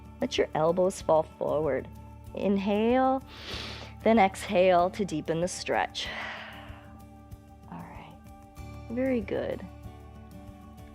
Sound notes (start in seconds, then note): 3.2 inhales; 7.1 exhales